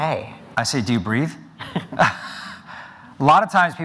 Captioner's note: both laughing